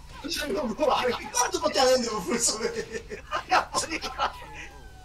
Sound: speaking Korean

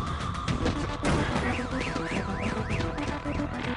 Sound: car alarm sounds

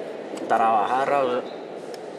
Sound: Spanish spoken audio

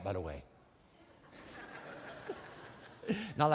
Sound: laughter

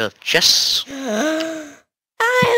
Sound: Mark gasps

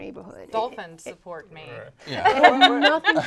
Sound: laughing

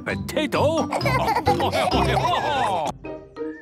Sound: laughing

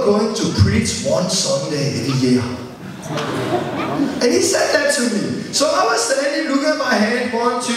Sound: laughter

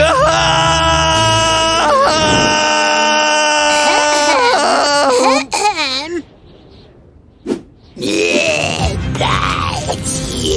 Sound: pear biting sound

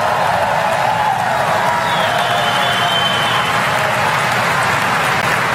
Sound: applause

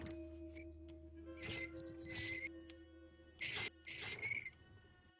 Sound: repeated squeaking

